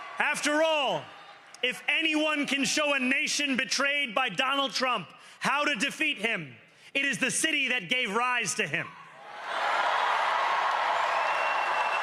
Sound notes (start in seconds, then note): 3.1 cheering